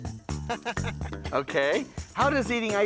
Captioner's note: Gabe laughs